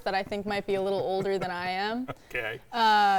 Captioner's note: laughing